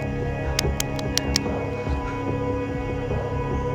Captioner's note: hand slapping